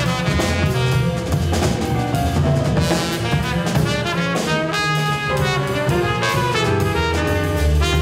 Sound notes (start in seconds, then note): 2.1 audience members cheering; 2.1 powerful jazz music